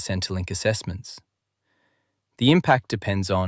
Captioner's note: thoughtful